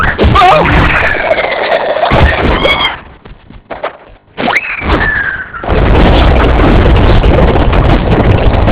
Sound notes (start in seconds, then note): 2.2 wails, screams